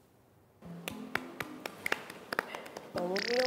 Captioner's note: clap. Clap. Clap. Clap